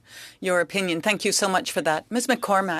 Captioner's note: speaking in French